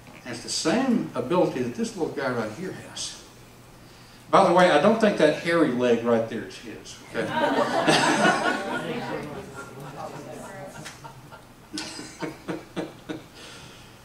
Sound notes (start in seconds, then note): 10.5 laughs